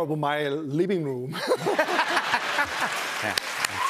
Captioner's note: laughter